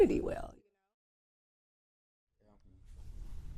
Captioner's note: silent